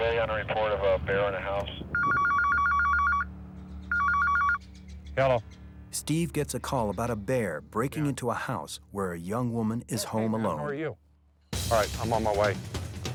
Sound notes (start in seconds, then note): 1.6 phone ringing; 1.8 tense music; 11.5 intense music